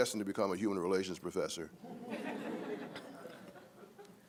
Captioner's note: laughter